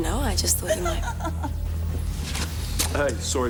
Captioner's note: woman giggling